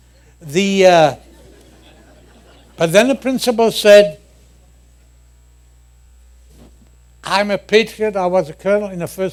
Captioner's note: laughter